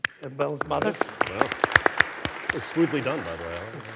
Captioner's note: everyone applauding